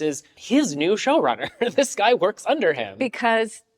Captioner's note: chuckles